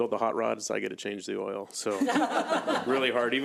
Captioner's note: audience laughs